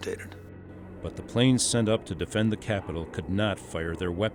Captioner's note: voiceover